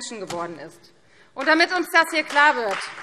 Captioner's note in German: Beifall Freie Demokraten